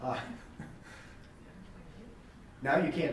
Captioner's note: laughing